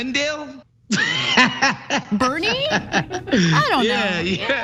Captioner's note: laugh